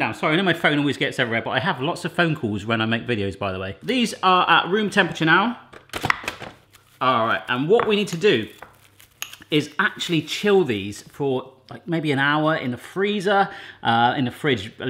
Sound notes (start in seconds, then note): none